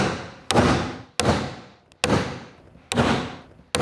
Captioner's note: continued steady hammer blows